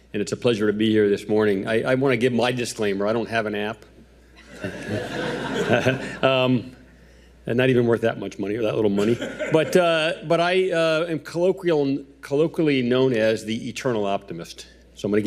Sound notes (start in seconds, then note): 4.7 audience applauding